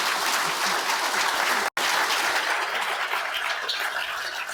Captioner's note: audience applauds